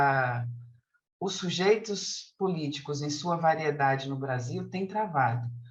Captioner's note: continues speaking in Portuguese